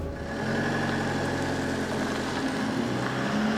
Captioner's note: motor revving